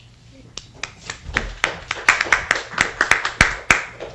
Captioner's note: applause